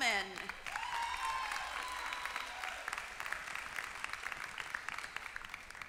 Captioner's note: applause